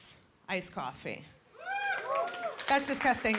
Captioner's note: scattered whooping